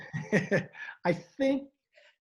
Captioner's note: chuckles; laughs